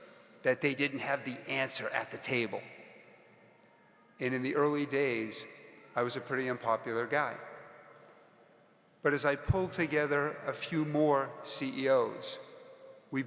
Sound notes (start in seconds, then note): none